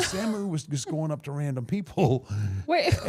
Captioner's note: blue vested woman laughing; chuckling